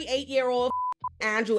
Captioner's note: beeping